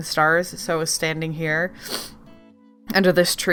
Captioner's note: sniffles